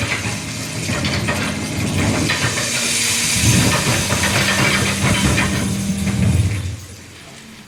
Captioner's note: rumbling grows louder